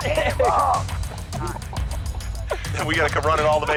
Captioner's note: lalaugughthterer